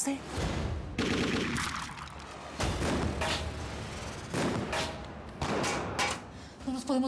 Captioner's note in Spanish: continúa la balacera